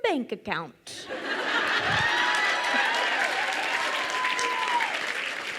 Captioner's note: crowd cheers and applauds